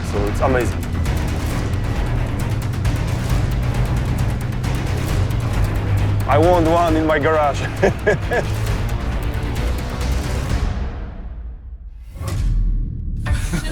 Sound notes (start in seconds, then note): 2.3 tank engines whirring; 7.6 laughs